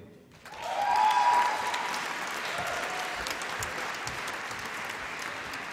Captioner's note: applause and cheering